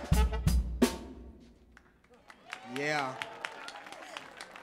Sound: audience clapping and cheering

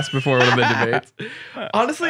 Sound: laughs

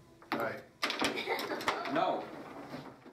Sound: laughter

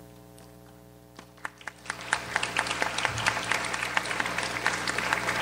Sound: audience applauds

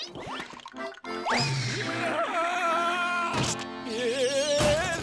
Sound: screaming

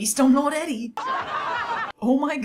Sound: more haughty laughter

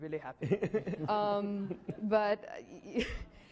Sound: laughing

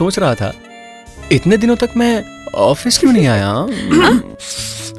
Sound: clears throat

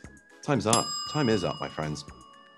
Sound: timer dings

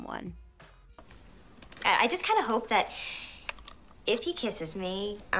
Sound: deep breath

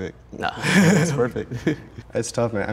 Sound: laughs

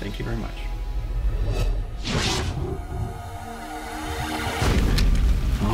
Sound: electronica whooshing

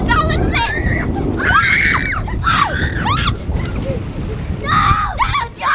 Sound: girls playfully screaming

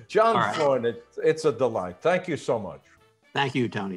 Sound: chuckles

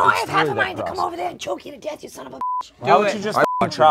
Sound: beep

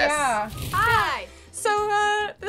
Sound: fire crackling

